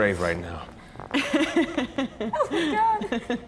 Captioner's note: laughing